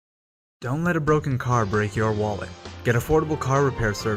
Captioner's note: voiceover